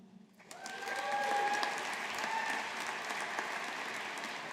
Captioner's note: audience applauding